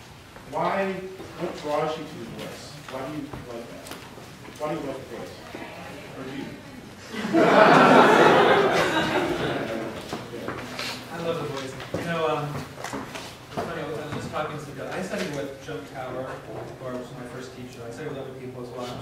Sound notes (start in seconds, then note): 7.0 laughter